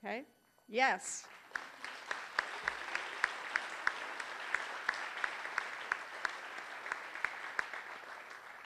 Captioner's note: applause